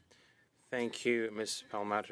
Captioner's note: speaking French